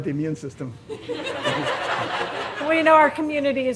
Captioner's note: audience laughing